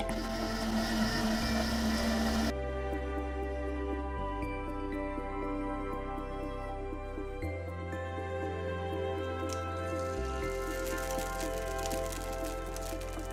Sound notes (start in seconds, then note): 0.0 juice bubbling; 0.0 blender motor roaring; 9.4 oil sizzling